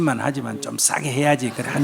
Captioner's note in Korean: 청중과 질문자 웃음